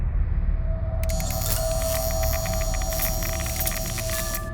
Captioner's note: electric buzzing; distorted music playing